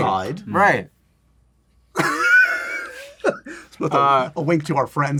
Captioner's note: laughs